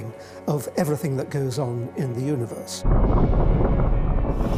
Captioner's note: flames roaring